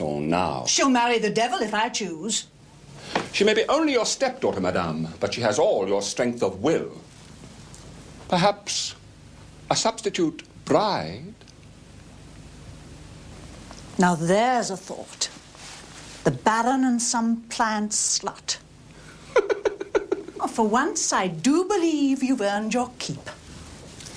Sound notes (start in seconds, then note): 19.3 giggles